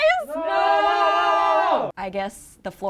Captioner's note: all exclaiming